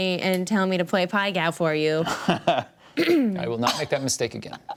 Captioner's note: chuckles